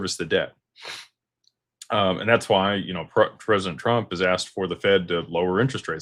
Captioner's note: snorts